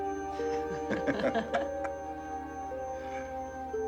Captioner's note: soft laughter